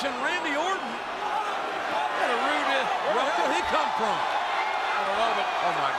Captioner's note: applause